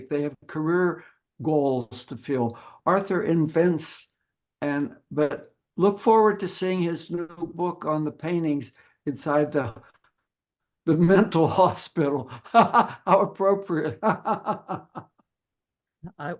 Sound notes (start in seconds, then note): 12.3 laughing